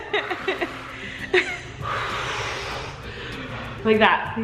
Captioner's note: breathing heavily